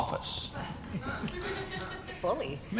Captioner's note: laughter